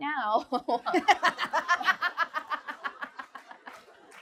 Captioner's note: laughter